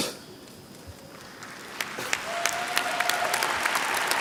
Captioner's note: applause